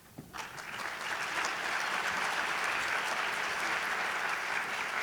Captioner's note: audience applauding